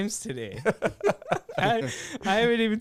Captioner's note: laughing